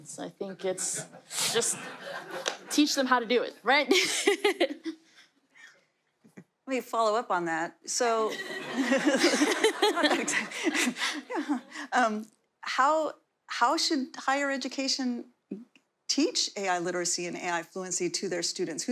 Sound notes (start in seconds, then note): 8.3 laughter